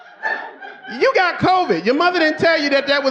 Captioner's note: audience laughing